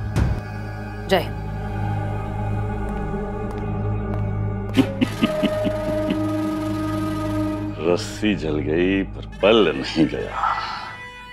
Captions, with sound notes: Victory to India. [laughs] The wolf may lose his teeth but never his nature